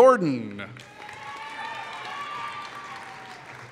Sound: applause

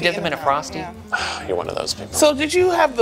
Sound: sighs

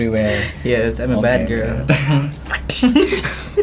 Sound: whip sound

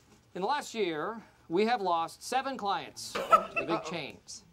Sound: laughs

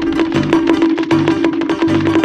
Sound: conk! Conk! Conk! Conk!; conk! Conk! Conk! Conk! Conk! Conk! Conk! Conk!

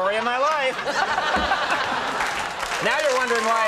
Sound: audience laughs

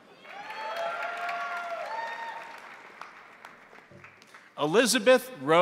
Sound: crowd cheering; crowd applauding

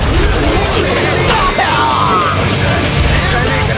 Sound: KO Scream

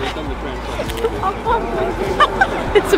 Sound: laughing

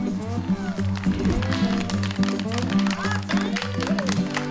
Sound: upbeat country music; applause

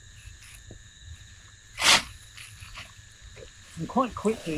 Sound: insects chirping; tools scraping

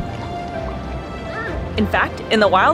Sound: background music; sea otter pup squeaking

